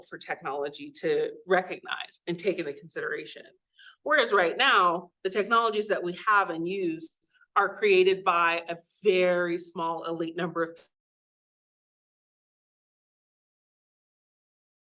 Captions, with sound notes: for technology to recognize and take into consideration. Whereas right now, the technologies that we have and use are created by a very small elite number of- (audio cuts out)